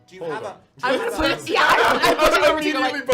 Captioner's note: laughter